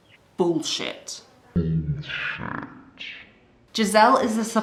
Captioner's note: super low and slow